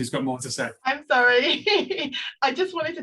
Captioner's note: laughs